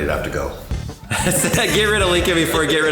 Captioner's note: laughter